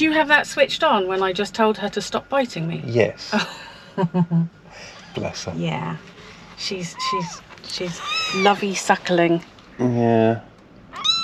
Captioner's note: laughter